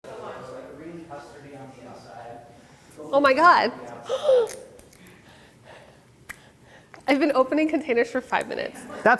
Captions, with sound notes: [BACKGROUND CHATTER] “Oh my God. [GASPS] I’ve been opening containers for five minutes.”